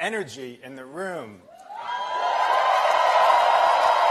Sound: applause

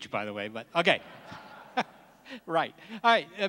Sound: laughs

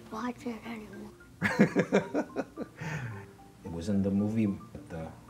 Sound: laughing

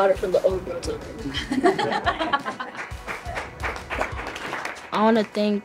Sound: judges laugh and applaud

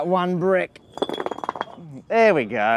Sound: bricks clunk fast again

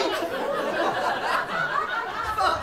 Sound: laughter

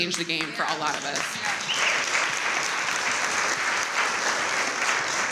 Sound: audience applauds

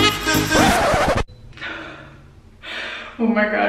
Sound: record scratch

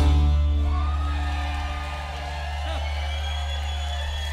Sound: crowd cheering

